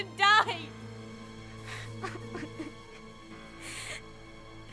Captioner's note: sobbing